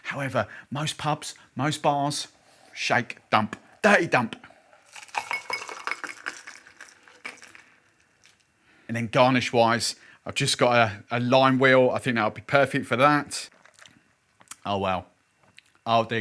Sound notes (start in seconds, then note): 4.8 cocktail pouring into glass